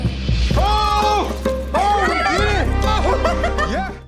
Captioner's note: laughs